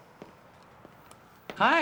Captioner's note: footsteps approaching